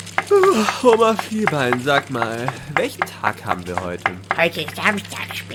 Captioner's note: yawn